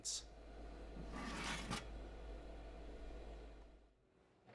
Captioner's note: tray grinding